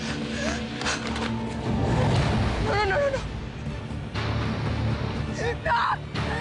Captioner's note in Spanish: Sollozos